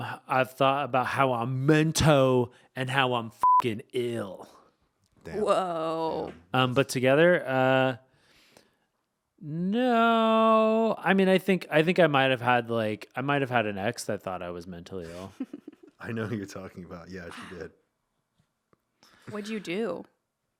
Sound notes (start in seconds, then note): 3.4 beep; 15.0 chuckling